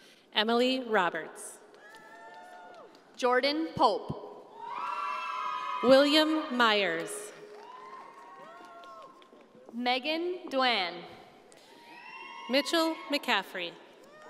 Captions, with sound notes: - Emily Roberts. - Jordan Pulp. (audience cheering) - William Myers. - Megan Dwane. - Mitchell McCaffrey.